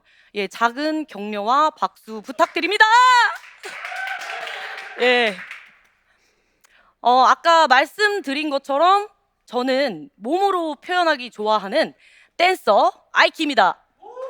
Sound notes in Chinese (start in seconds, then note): 2.3 欢呼声; 14.0 欢呼声